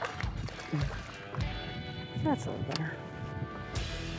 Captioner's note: fish plops; country music continues